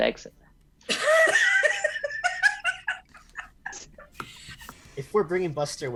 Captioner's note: laughs loudly